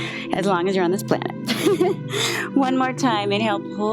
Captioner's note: laughs